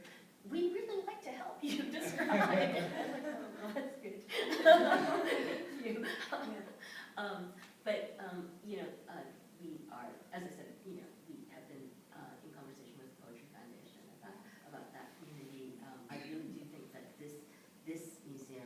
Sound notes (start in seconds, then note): 4.3 laughter